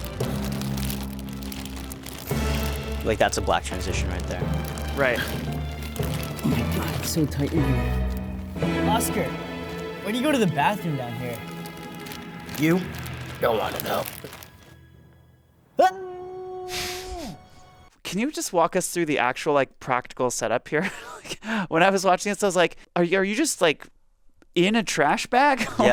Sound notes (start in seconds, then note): 0.2 heroic music continues; 6.3 grunts; 16.0 shouting